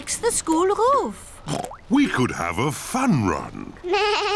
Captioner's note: oinks; bleats